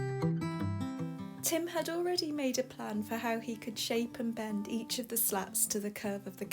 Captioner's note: voiceover